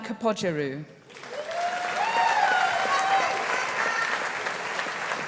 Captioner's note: audience applauding